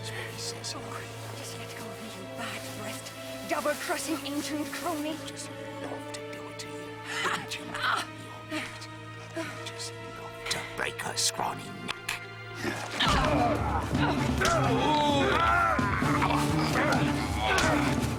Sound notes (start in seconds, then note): 0.3 Hawg whispering; 4.3 Hawg whispering; 12.5 groaning; 14.6 dramatic music; 15.5 grunting